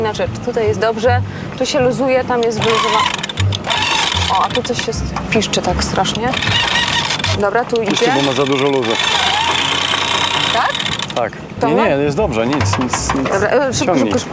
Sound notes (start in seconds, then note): 2.5 pipe sound